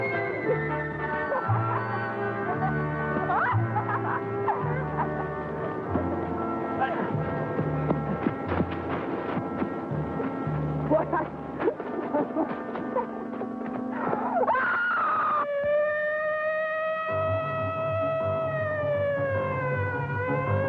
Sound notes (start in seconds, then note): 14.3 screaming; 14.5 siren blaring; 16.1 suspenseful music